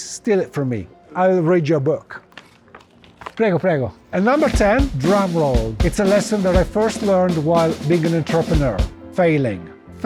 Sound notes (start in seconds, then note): 3.3 in Italian